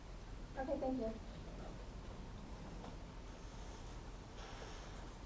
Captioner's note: attendee Through Translator